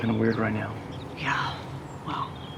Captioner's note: sighs